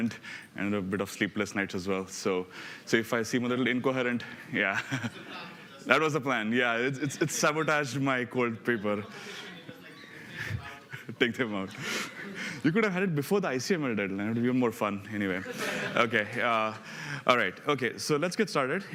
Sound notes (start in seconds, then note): 11.5 laughs